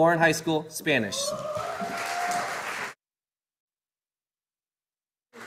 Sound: audience applauding

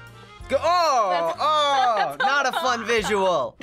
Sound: laughing

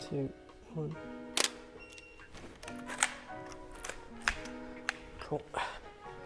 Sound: camera shutter clicks

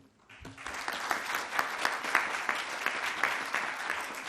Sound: audience clapping

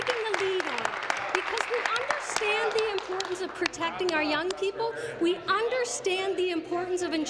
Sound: applause

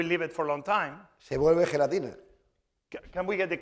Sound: speaking spanish

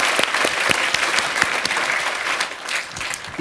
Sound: applause

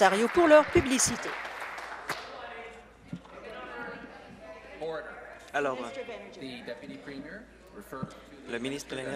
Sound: applause

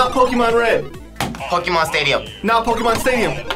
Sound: buzzer rings

